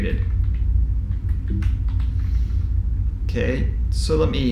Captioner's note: keyboard typing sound